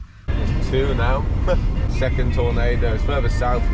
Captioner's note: chuckles